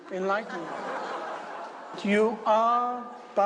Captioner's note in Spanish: Risas